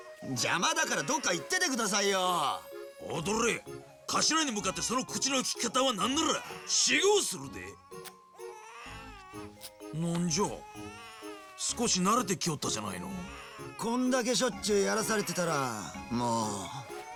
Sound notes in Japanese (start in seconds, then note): 11.3 泣き声